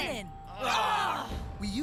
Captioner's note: groaning